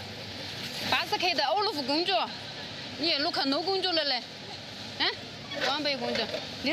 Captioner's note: woman speaking foreign language